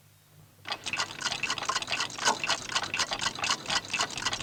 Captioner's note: clocks ticking